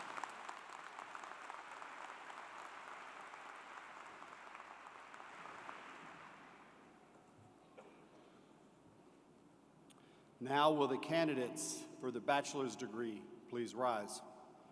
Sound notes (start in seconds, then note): 4.7 applause